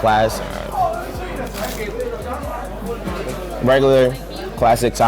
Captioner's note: crunching